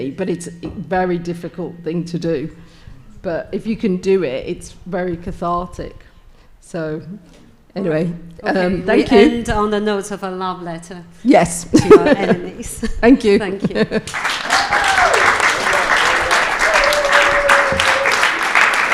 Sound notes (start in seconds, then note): 11.8 laughs; 14.1 audience applauding and cheering